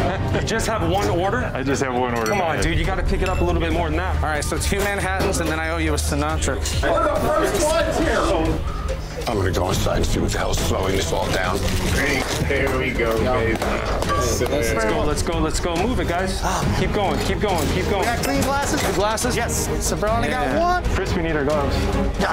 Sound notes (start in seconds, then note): 14.2 clapping